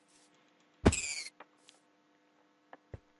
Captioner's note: sad rabbit death squeek